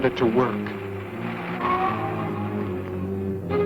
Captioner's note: car rumbling